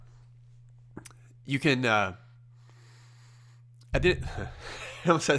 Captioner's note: laughs